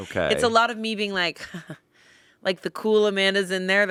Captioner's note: chuckles